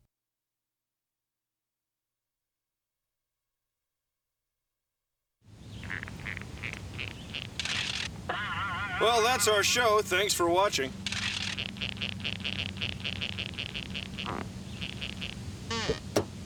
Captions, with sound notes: [ RUBBER SQUEAKING ] [ BOING! ] WELL, THAT'S OUR SHOW. THANKS FOR WATCHING.